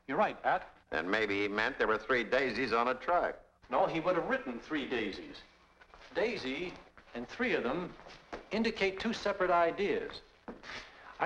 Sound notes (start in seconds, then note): none